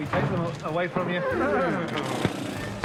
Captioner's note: jackson & pace whinny